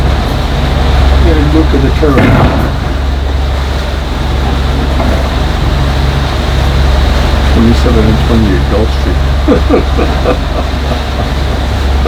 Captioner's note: laughing